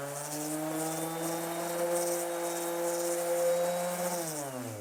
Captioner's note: sander running